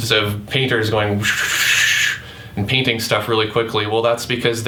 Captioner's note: quick swooshing